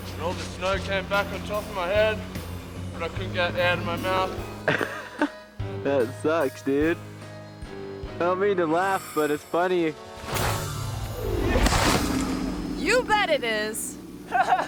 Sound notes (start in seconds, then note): 4.6 friend laughs; 10.4 snowboard scrapes; 14.2 friend laughs